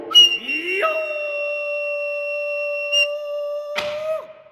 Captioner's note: man shouting